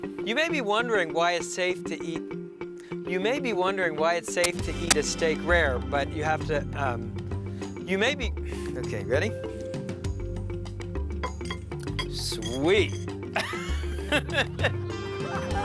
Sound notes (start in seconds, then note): 8.4 sighs; 13.3 laughing